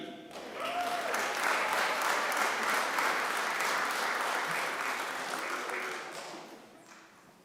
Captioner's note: applause